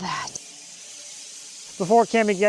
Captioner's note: woodcutting machine hissing